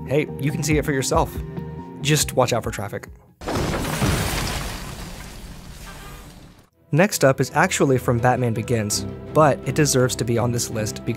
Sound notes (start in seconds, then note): 3.4 glass shattering; 7.4 epic music